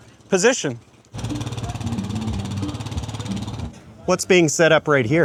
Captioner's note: engine purrs